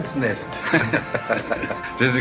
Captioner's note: laughs